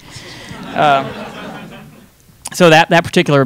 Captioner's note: audience laughing